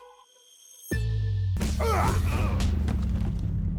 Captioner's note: fighting grunts